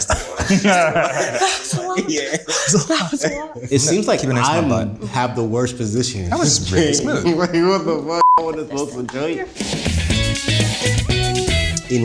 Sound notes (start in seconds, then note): 0.0 all laughing; 8.2 beeps; 9.4 upbeat music